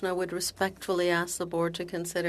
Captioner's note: speaking in French